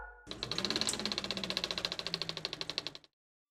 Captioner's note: film whirring